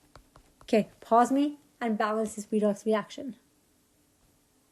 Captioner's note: typing